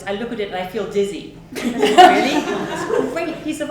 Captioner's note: audience laughs